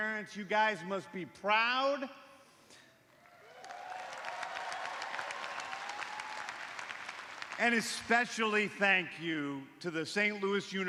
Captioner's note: cheers and applause